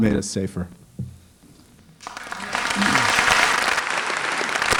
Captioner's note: applause